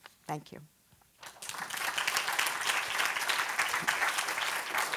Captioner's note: applause